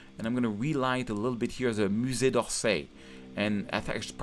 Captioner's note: speaking in French